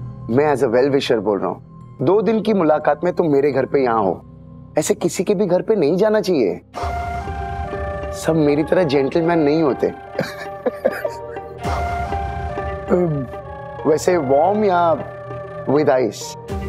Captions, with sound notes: I'm telling you as a well wisher. You know me for a day, but you're with me in my house. You shouldn't go to someone's house like this. [dramatic music] Not everybody will be a gentleman like me. [laughing] Would you like it warm or with ice?